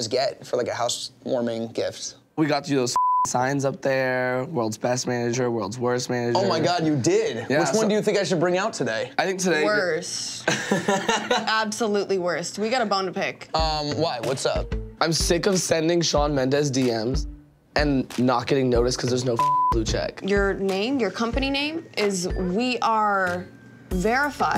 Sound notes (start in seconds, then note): 2.9 beeps; 10.4 laughs